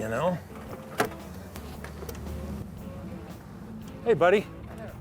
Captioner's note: door opening